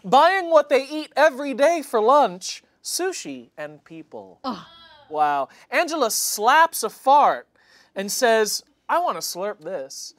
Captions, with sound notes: buying what they eat every day for lunch, sushi and people. (group groaning) Wow. Angela slaps a fart and says, "I wanna slurp this."